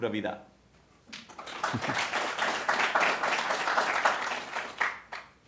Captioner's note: applause